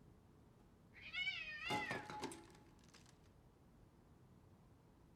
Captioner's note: cat screeching